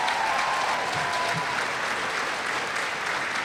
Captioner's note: applause